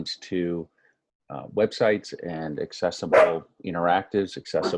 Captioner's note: dog barking